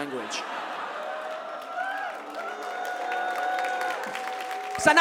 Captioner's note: mix of whoops and boos, audience clapping